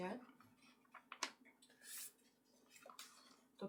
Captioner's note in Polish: szelest kartki